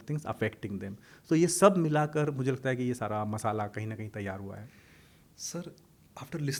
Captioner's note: hindi